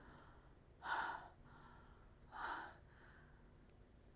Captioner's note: heavy breathing